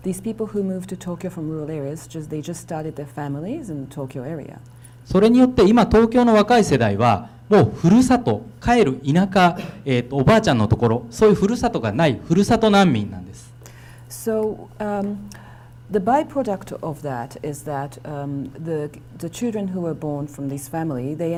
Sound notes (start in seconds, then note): 4.6 speaking foreign language